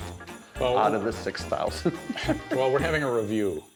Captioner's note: laughs